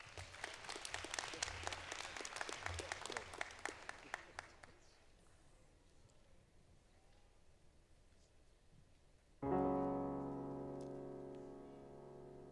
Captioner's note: applause